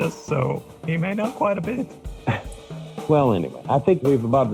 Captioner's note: snickers